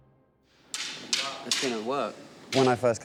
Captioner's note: sticks Hitting